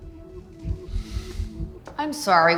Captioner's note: sighs